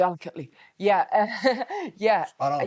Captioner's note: laughs